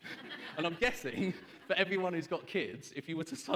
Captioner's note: laughs